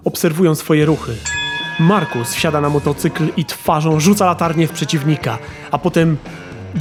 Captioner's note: ring sound